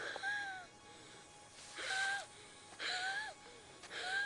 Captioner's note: wheezing